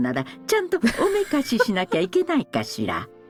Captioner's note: chuckles